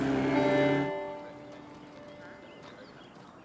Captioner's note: birdsong